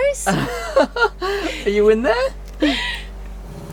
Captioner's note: laughs